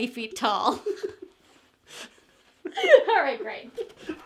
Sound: both laughing

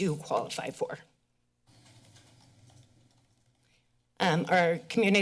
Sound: pause

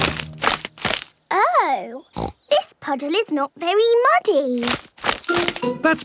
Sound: snorting

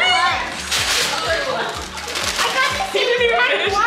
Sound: paper rustling

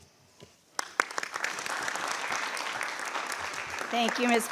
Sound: audience applauds

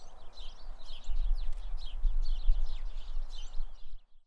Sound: birds chirping

